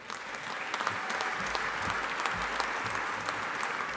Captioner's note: audience applauding